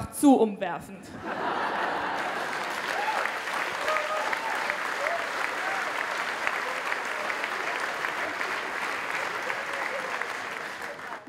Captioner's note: applause